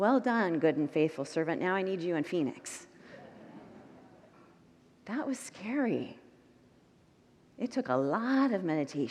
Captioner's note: congregants murmur